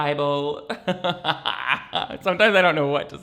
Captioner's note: laughs